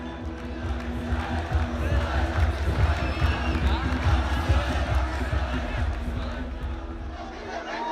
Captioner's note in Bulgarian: Протестиращи крещят